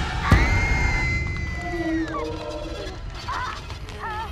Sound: Brigit screams

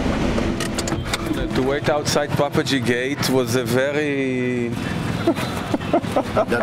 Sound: laughter

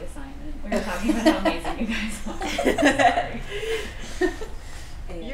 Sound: laughter

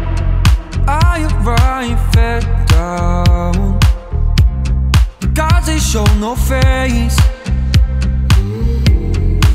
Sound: mmh-mmh

